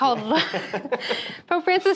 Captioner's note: chuckles